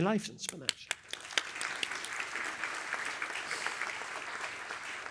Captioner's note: applause